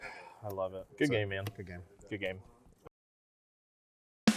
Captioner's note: sigh